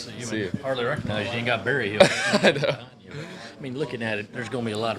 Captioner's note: laughter